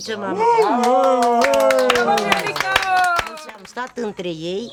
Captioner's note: cheering, applause